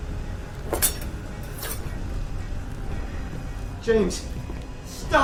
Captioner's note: knife clanging